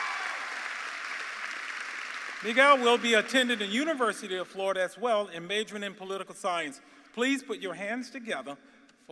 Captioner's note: cheers and applause